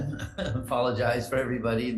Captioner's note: chuckles